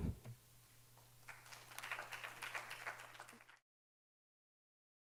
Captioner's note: audience applauding